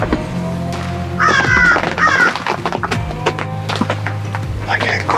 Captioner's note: crow cawing